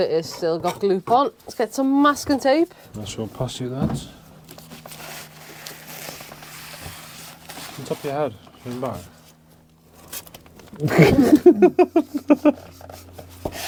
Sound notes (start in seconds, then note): 10.6 laughing